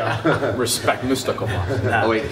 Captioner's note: laughter